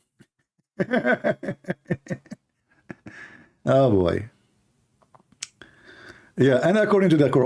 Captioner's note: Ketawa